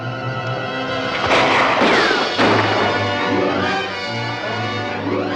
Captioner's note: gun firing